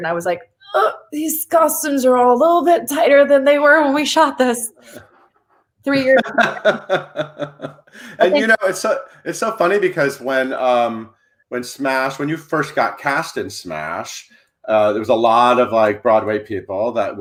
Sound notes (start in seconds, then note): 5.9 laughs